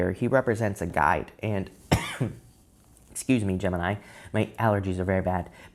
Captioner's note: coughing